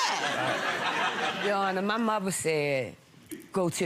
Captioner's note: audience laughing